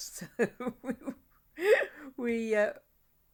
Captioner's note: laughing